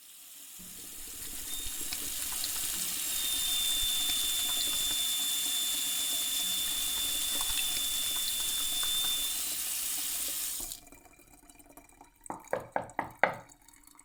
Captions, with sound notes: (Water running) Knock knock knock knock knock.